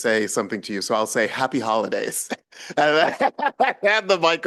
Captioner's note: laughs